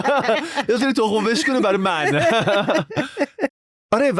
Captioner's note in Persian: خنده